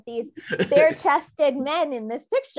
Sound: laughs

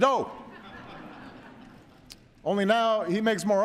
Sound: laughter

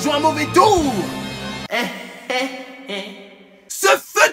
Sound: evil laugh

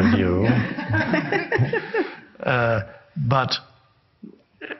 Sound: woman laughs

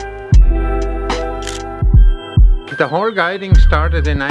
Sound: camera shutter clicks

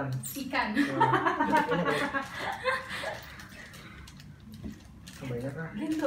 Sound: laugh

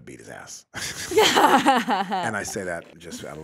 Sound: both laugh

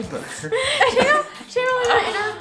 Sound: laughs

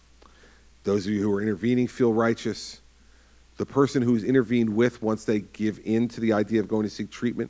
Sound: none

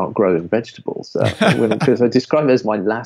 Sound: laughing

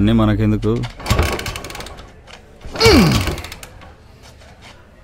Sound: engine stalling

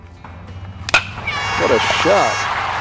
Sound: cheering

